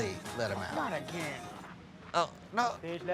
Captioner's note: voiceover